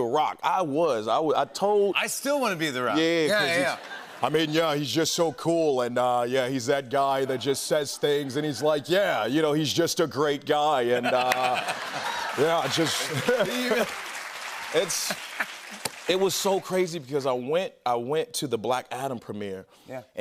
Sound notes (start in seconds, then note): 13.0 cheers and applause; 15.4 normal voice